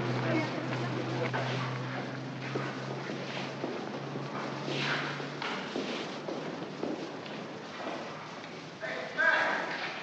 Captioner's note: city street sounds; footsteps